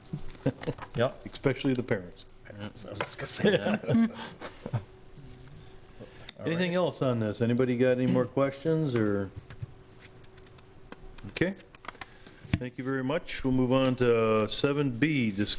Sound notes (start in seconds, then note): 5.2 laughter